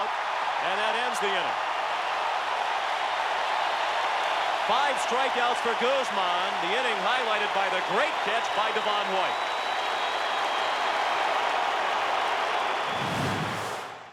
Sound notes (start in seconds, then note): 7.6 applause; 8.3 cheering and Applause